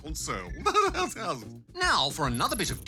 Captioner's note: laughs